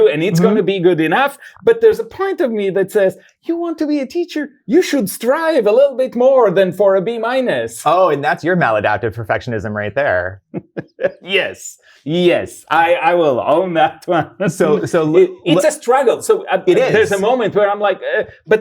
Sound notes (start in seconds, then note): 9.8 laughs